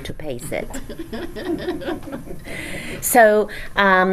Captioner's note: audience laughs